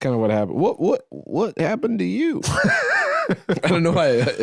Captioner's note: laughs